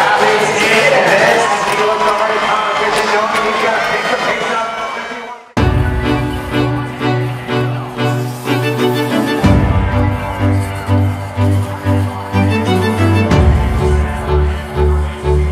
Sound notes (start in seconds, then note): 3.5 crowd cheering